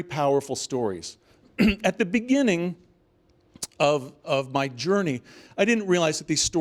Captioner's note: cough